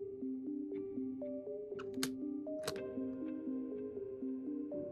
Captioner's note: click